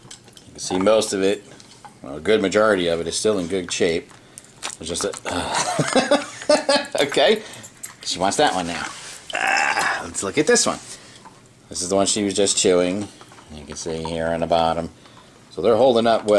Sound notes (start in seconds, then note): 5.3 laughing